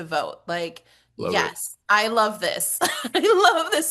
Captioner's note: laughs